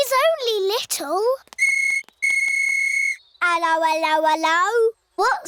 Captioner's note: blows whistle